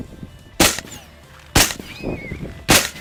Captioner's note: gunshot